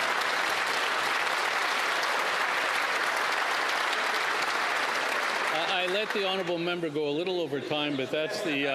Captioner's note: applause